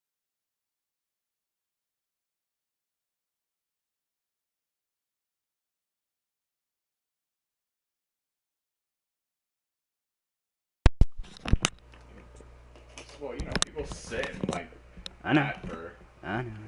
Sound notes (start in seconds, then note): 11.0 background:Microphone Gets turned on